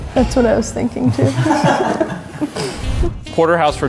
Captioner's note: offscreen laughs